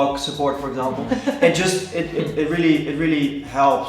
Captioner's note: laughing